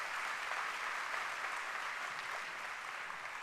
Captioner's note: applause